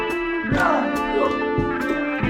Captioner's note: smack